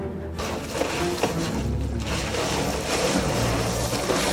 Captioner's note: ice crunching sounds